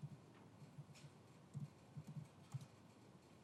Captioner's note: typing sound